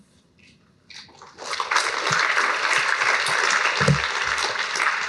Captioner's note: applause